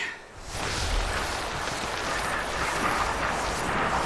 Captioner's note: wind gusting